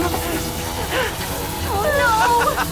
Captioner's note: captain hayes laughs